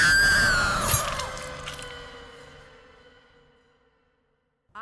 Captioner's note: screams; flesh squelches